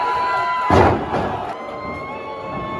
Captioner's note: crowd cheers